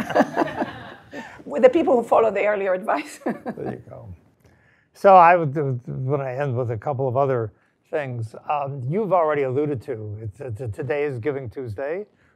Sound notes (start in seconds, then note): 0.0 laugh; 3.2 laugh